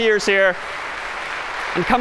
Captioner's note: applause